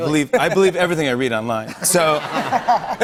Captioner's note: laughter